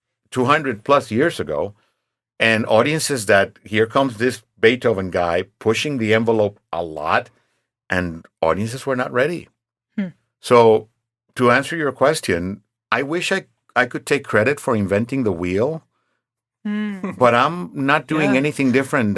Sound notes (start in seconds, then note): 16.9 chuckling